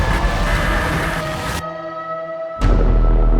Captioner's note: siren wails